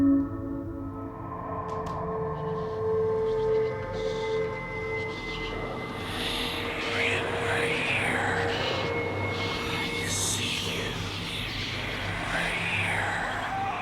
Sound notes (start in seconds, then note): 1.8 voice whispering faintly; 6.2 ghostly Voice